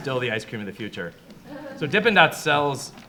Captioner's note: audience chuckles